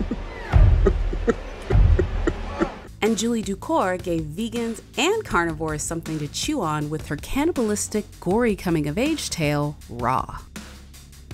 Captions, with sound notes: (demonic laughing) - [Voiceover] And Julia Ducournau gave vegans and carnivores something to chew on with her cannibalistic gory coming of age tale, Raw.